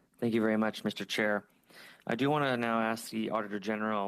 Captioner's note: speaking French